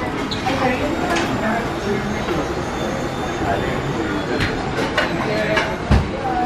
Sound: clattering ambience of trays and utensils

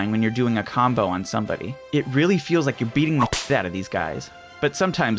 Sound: whip crack

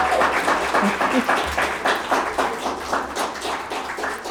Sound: audience applauding

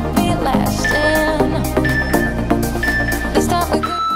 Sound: alarm beeping

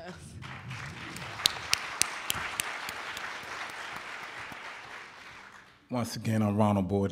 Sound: applauding

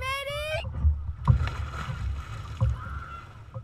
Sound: splash

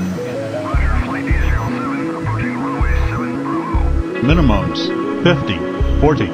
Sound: air traffic control sound

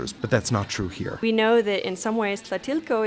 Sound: voiceover

